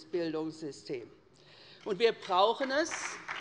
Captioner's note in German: Beifall bei der SPD